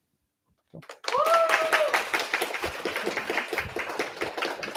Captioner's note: applause